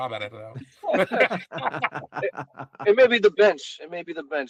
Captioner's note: laughing